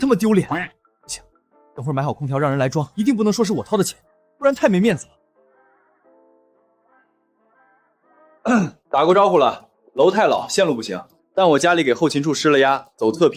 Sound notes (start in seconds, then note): 8.4 cough